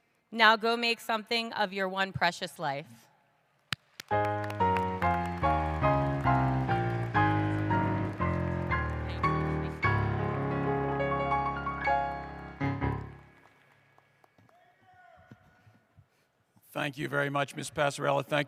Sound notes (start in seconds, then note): 3.9 applause